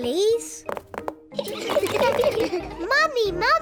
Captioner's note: all laugh